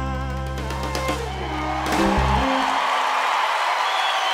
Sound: cheers and applause

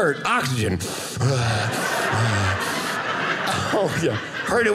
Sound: audience laughing

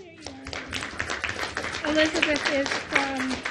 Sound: applause

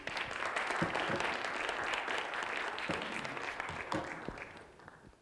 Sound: clapping

